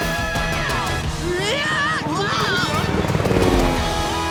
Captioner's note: screaming